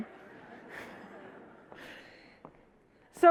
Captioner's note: audience laughs